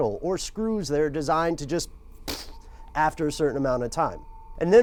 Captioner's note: exhales